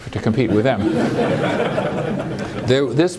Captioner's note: laughter